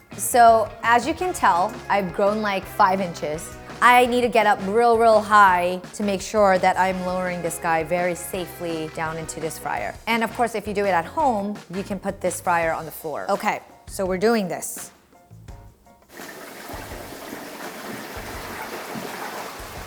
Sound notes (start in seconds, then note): 16.1 boiling bubbles